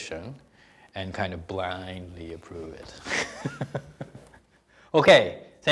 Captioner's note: laughing